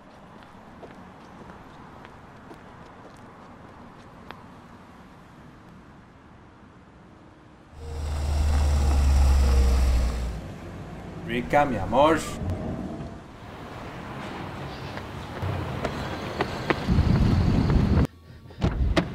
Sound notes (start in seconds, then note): 7.7 engine revving